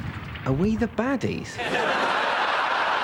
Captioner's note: explosion